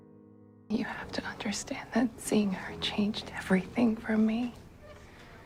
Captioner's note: voiceover